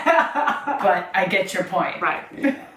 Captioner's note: laughs